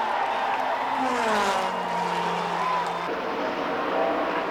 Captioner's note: engines roar